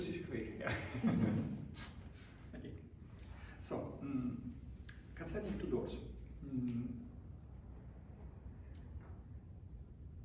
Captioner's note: chuckles